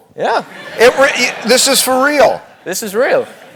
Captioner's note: laugh